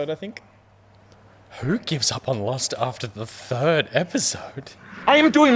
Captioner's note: shocked